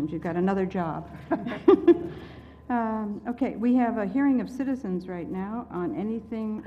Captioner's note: laugh